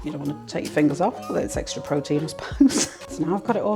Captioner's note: laughs